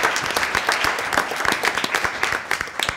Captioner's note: applause